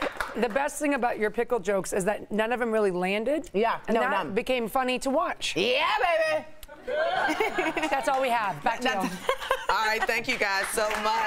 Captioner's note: laughter